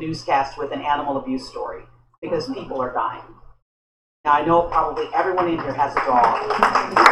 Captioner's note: applause